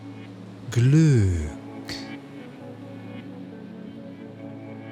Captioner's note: german